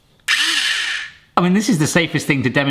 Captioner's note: motor whirs